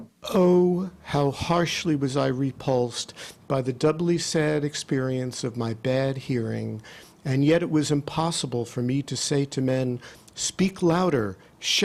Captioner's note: playing recorded statement and audio